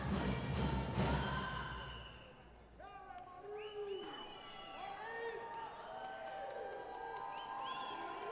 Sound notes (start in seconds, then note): 3.2 audience cheering